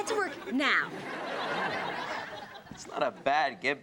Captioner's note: audience laughs